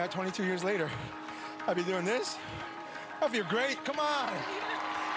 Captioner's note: cheering